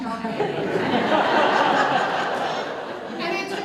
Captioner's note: audience Laughter